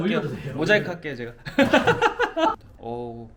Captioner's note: haha